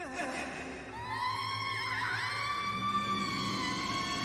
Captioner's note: horror screaming